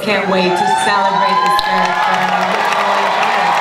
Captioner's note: audience cheering and applause; speaker muffled by applause